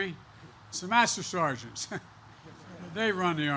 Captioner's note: laughter